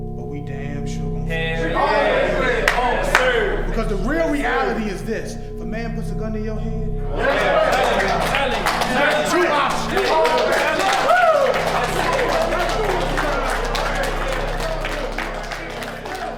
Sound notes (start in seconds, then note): 10.5 men clapping